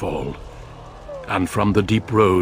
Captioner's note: sad whine